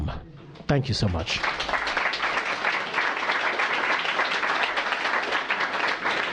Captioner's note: applause